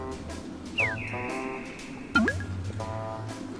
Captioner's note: haha